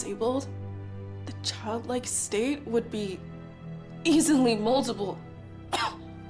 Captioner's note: coughs